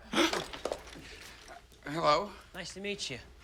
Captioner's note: gasps